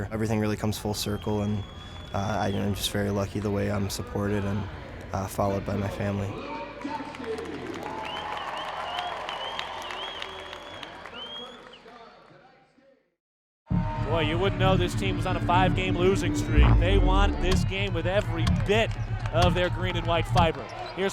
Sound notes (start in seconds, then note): 7.0 audience cheering; 13.8 exciting music